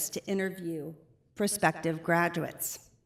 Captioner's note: none